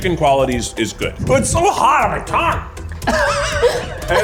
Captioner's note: all laugh